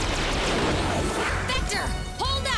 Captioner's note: laser blasts